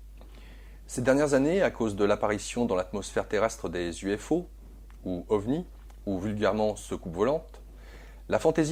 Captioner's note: french